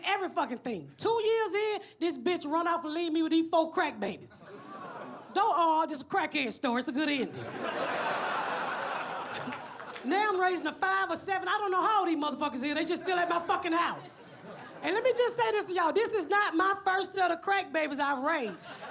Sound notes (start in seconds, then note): 4.8 audience gasps; 7.4 audience laughs; 9.2 chuckles